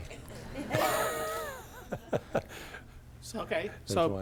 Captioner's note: laughter